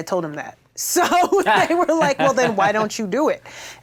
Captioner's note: laughs